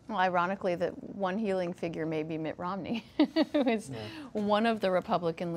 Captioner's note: laughs